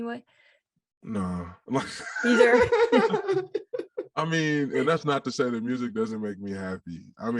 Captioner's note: all laugh